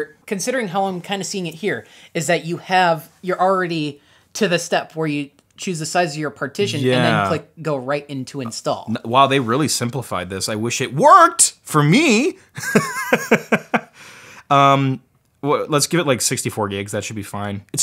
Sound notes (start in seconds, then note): 12.6 laughs